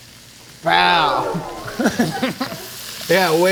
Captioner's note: claps; electronic grumbling; laughing